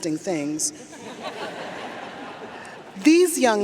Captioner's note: audience laughs